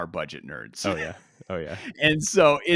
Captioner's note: laughs